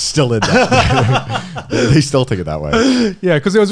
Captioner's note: laughing